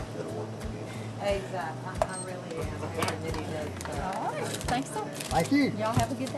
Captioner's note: hardware store chatter